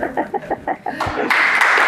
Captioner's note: applause